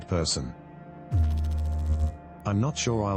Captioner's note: electrical noise